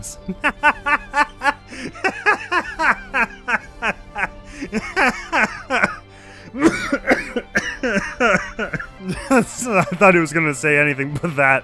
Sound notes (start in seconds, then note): 0.3 cackles like a hyena; 6.5 cough-laughs